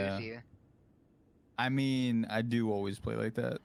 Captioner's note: humming from chat